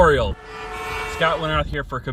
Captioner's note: horns honking